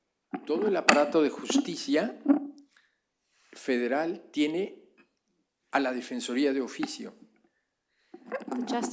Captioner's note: speaking spanish